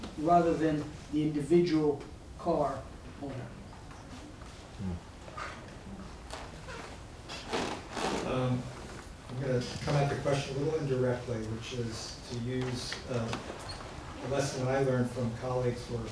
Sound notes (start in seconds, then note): 6.1 chair squeaking